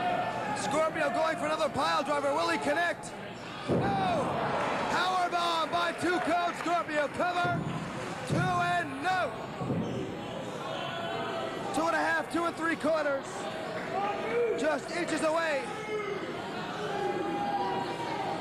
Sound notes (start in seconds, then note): 4.0 cheers and applause